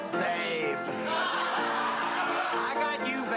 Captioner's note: laughs